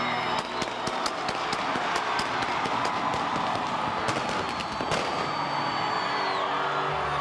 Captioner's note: crowd cheering; fireworks exploding